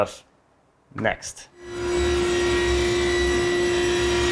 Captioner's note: whirring